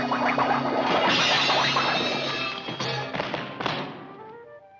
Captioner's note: pieces clattering